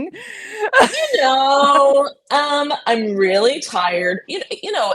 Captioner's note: both laughing